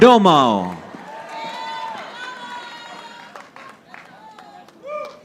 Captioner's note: audience applauding